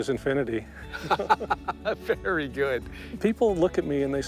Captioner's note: laughter